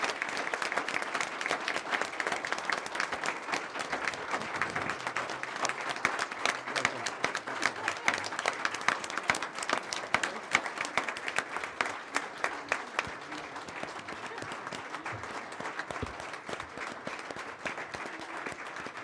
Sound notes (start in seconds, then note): 2.9 applause